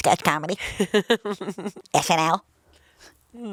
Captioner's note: laughs